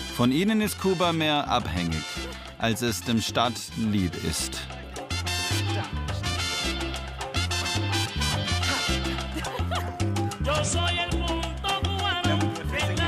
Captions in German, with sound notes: Von ihnen ist Kuba mehr abhängig, als es dem Staat lieb ist. (Belebte, rhythmische Musik) (Sie lacht.)